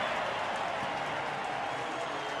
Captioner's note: cheering; pa announcement